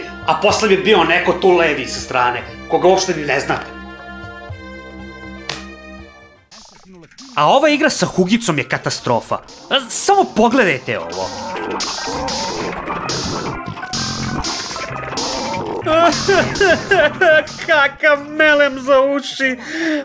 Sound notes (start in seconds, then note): 11.4 terrible sounds from the game; 15.3 cries